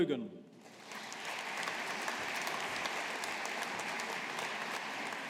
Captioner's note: audience applauding